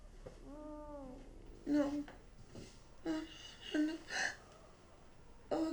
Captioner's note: Jane sobbing